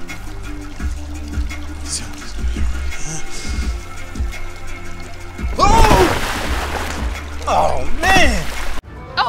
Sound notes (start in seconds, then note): 5.5 screams; 5.6 water splashing